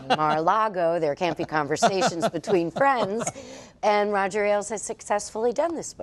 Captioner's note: laughter